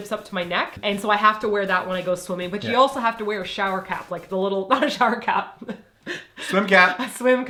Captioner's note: laughs